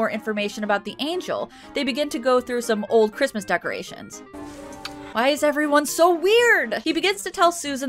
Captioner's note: kiss